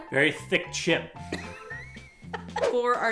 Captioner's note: laughs